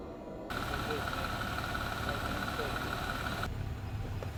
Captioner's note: car engine revving